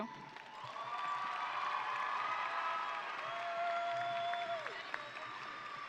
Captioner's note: audience cheering and applauding